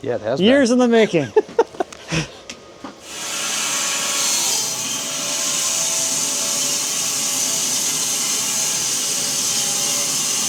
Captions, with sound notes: - Yeah, it has been. - Years in the making. (saw buzzing)